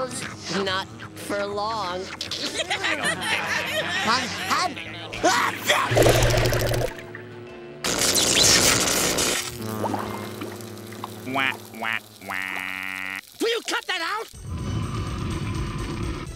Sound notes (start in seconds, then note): 2.1 laughing; 5.2 sneezing